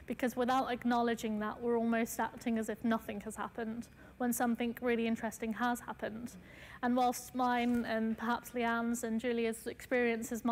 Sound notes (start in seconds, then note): none